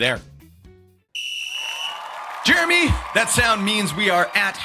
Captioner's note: audience Cheering